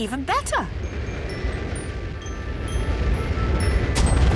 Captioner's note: rocket thrusting